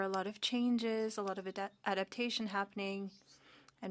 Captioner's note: speaking French